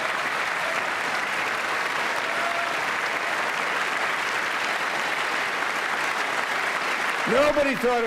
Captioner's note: applause